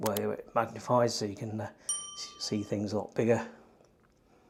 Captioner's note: bell rings